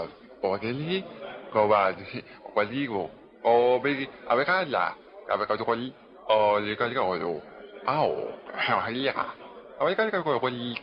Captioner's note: speaking chinese